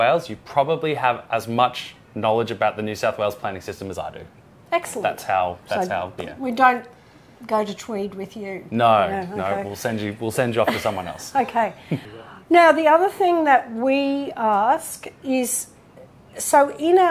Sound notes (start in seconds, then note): 12.4 background chattering